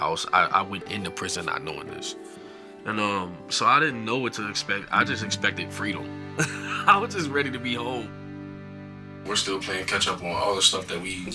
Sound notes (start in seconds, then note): 6.4 laughs